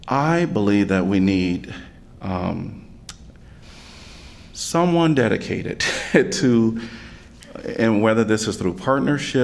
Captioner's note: laughter